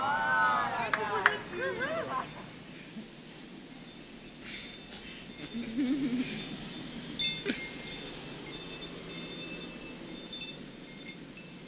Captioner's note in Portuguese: ruído da rua e carros ao fundo; som de sino dos ventos